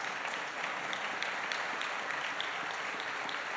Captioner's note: applause